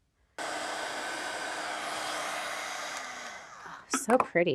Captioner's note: dryer whooshing